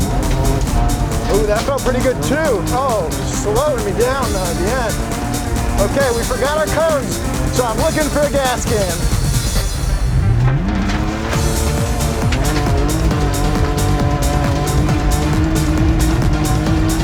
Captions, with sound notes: (upbeat intense dance music) Ooh, that felt pretty good too. Oh, slowing me down though at the end. Okay, we forgot our cones so I'm looking for a gas can. (car roaring) (upbeat intense dance music)